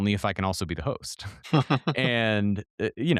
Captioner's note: laughing